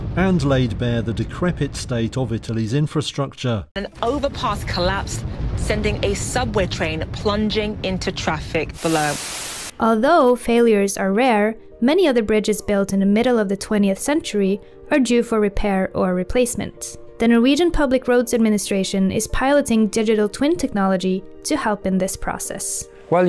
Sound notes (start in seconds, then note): 8.8 screen statics